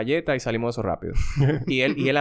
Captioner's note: laughs